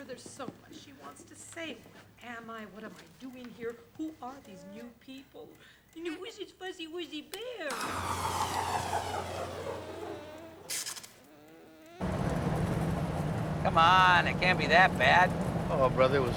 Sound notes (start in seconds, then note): 8.5 electrical whirring